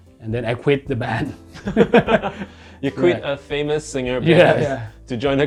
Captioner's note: laughing